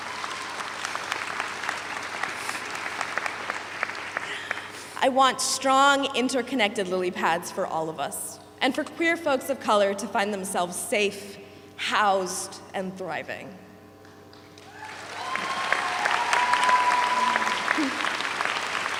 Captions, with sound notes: I want strong, interconnected lily pads for all of us, and for queer folks of color to find themselves safe, housed, and thriving. (audience applauds)